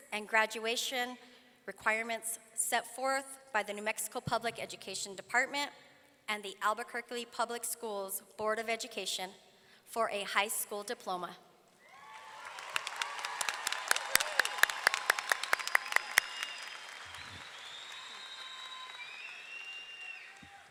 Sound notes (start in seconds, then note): 11.8 audience cheering; 11.9 all clapping